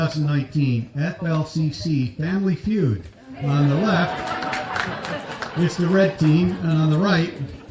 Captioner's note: applause